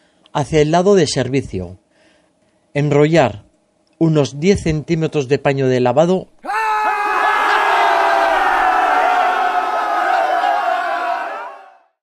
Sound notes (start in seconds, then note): 6.4 shouts of joy to reach 1,000 subscribers